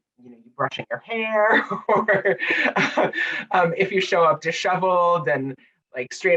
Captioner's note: laughing